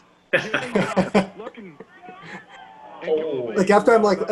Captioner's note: all laugh